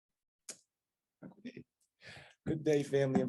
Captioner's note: non-english speech